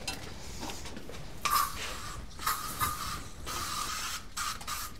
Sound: aerosol spray hisses

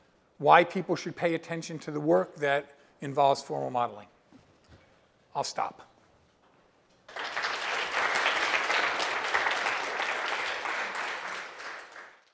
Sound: applause

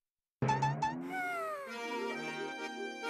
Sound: sighing

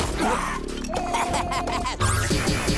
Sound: laughing

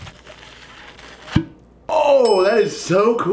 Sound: air popping

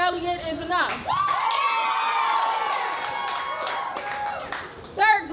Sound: applause and cheers

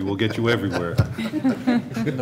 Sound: laughter

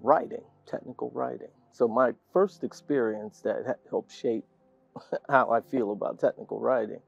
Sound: laugh

